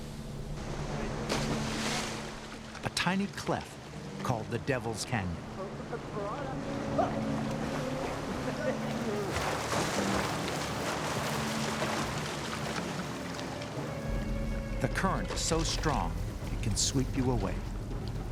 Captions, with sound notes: A tiny cleft called the Devil's Canyon. [water splashing] The current is so strong it can sweep you away.